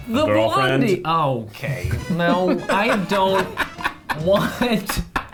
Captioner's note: laughing